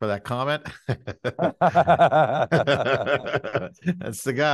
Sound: both laughing

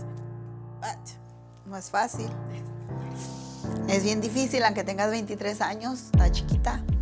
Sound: Eileen's grandma speaks in foreign language

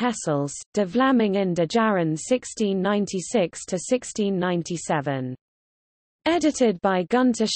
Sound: in German

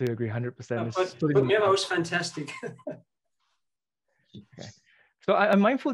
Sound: chuckles

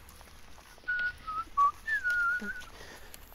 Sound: more whistling

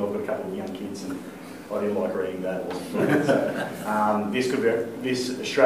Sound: laughter

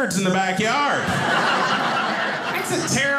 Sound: audience laughing

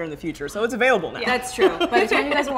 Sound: laughs

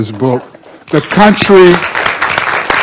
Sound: crowd clapping

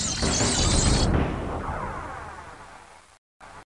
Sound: fweep fweep fweep; metal clattering to the floor

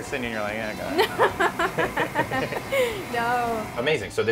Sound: laughing

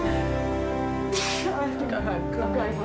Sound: sneeze

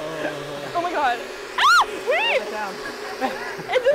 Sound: squeals

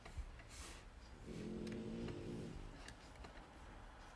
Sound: Helga snores

